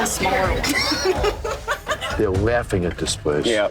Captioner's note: group laughs